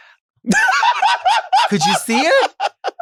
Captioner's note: Sapphira laughs